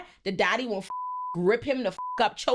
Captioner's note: beep